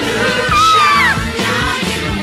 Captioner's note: Sweet Polly Purebred Screams